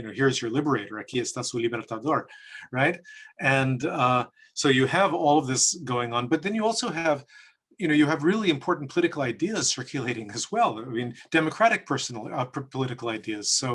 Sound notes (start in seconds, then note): 1.2 speaks in foreign language